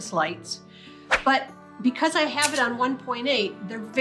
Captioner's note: air whooshes